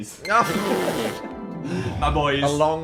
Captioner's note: laughs